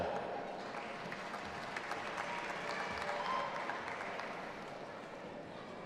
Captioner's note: audience applauding and cheering